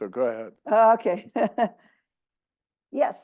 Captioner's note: laugh